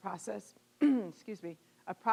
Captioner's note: clearing throat